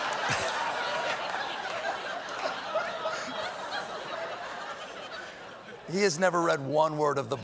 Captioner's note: laughter